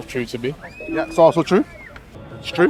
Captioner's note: scoreboard beeps